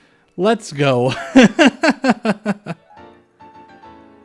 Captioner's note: laughter